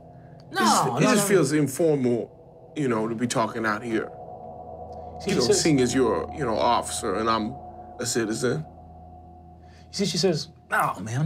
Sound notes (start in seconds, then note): none